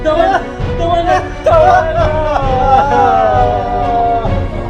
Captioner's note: crying